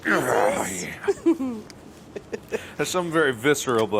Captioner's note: Mark grunting